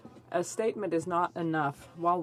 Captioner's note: speaking French